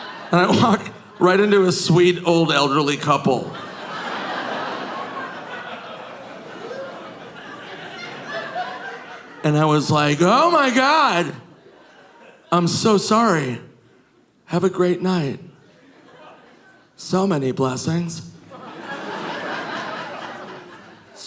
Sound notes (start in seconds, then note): 3.2 audience laughing; 18.4 audience laughing